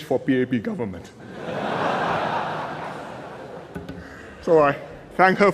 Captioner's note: laughter